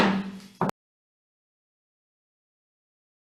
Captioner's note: gavel taps